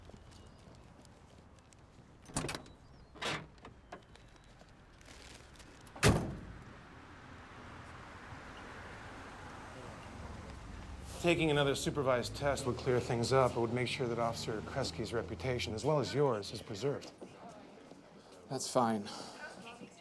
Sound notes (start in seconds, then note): 0.0 birds chirping; 6.6 vehicle approaching